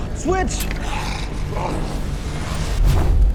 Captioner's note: snarling